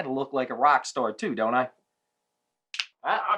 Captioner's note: snapping